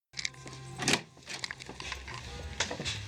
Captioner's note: door opening; frantic footsteps